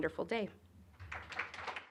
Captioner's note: applause